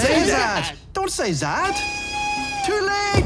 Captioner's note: red alert whistle